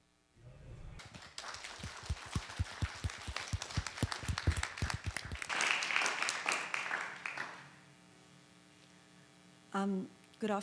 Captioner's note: applause